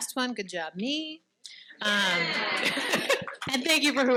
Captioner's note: participants cheering